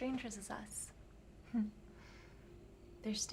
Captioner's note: Claire chuckles